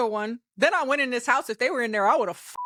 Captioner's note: beep